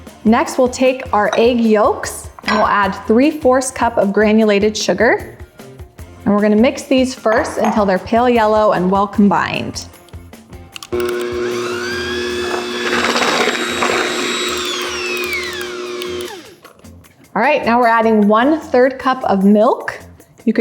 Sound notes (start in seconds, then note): 10.8 whirring